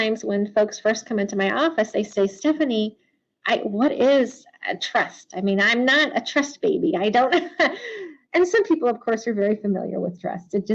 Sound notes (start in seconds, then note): 7.3 chuckles